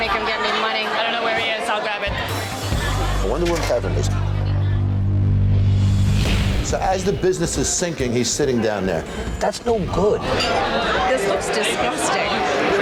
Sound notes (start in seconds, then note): 4.7 dramatic music; 10.3 silverware clanking; 10.7 customers chattering loudly